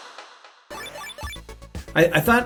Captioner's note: video game beeps